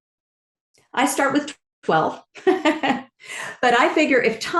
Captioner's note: laughs